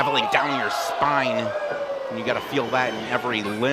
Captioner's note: crowd oohs